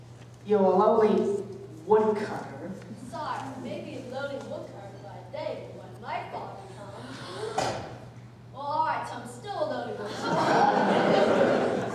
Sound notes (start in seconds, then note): 6.9 all gasping in anticipation; 10.7 all sighing and groaning